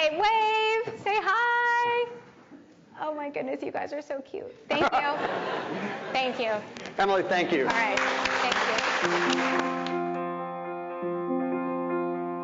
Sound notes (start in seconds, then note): 4.7 audience laughing; 9.0 audience applauding